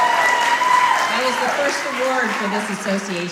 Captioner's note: applause and cheering